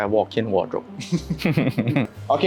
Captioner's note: laughs